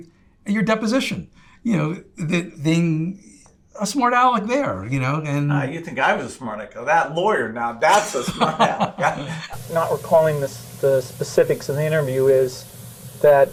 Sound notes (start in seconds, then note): 7.8 laughs